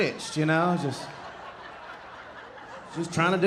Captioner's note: audience laughing